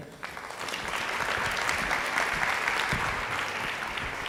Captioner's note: audience applauding